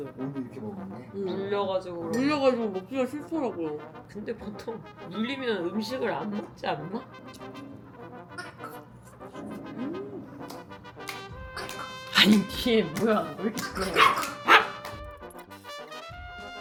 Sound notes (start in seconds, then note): 9.0 grrr; 11.5 hiccup!!!; 12.0 clap!! Clap!! Clap!!! 👏; 13.6 bark!!!!! bark!!!!!